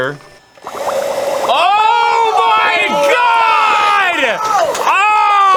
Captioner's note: both absolutely yelling in sync